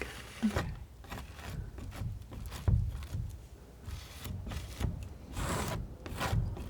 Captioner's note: scratching